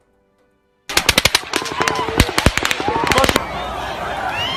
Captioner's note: guns Shooting